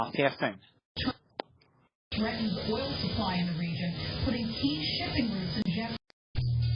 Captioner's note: "21Alive News at 5" plays in background; "21Alive News at 6" plays in background